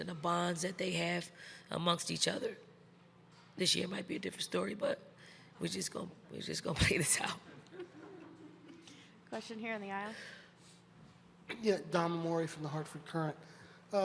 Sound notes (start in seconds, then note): 7.6 chuckles; 7.6 crowd laughs